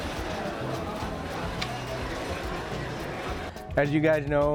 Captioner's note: restaurant chatter